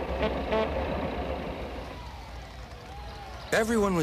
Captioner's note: honking; people cheering